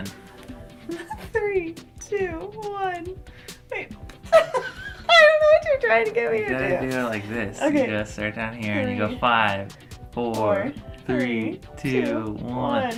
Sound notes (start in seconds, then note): 4.3 both laughing